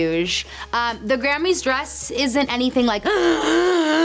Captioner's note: gasps